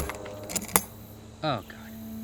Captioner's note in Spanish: música siniestra; clic metálico